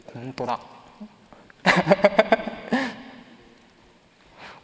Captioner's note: laughs